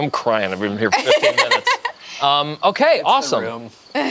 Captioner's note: laughs